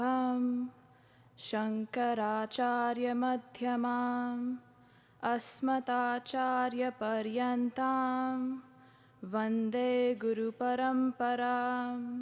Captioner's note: chanting in native language